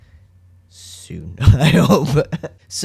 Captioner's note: laugh